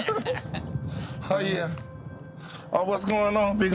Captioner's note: laughter